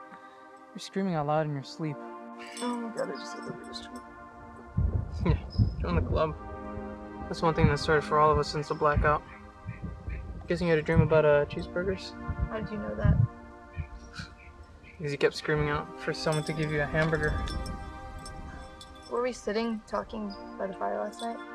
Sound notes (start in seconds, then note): 13.4 thunder in distance